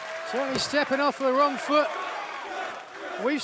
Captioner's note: cheers and applause